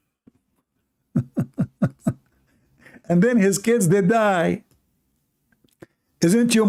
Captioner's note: Ketawa